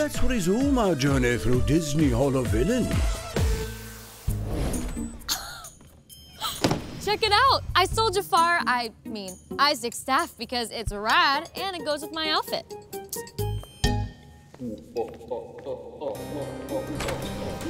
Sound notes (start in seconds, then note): 5.6 chuckles; 15.3 man laughs evilly